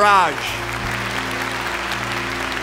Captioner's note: applause